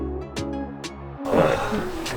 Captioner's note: sigh of relief